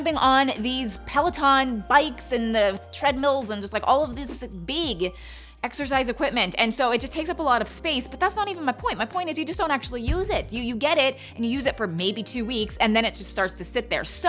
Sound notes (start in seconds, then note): 10.1 booming sound